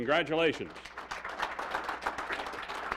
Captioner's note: applause